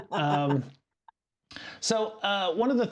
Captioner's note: laughing